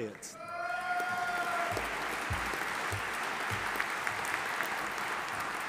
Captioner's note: audience applauding and cheering